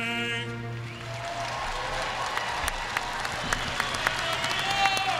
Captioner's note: audience applauding